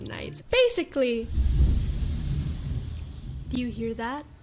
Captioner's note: thunder